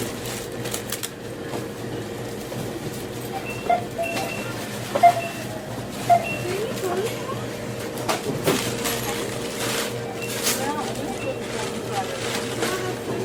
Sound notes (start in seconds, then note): 3.6 checkout beeping; 8.5 bag rustling